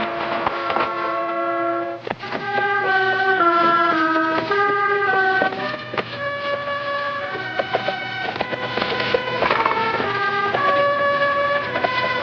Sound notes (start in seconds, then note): 0.6 tense orchestral music; 2.0 horse trotting